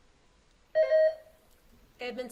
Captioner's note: buzzer beeps